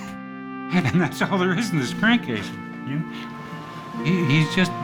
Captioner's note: laughing